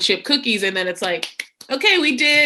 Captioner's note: claps hands